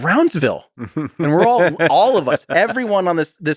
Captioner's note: Lex laughs